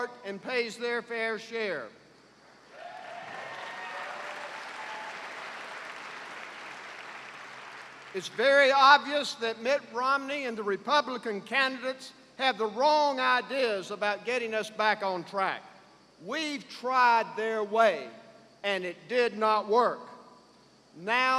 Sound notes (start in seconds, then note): 2.7 cheers and applause